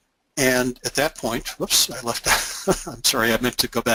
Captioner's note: laughs